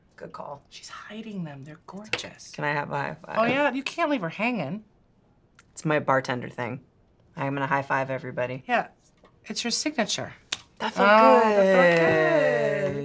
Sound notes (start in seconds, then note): 10.5 slapping hands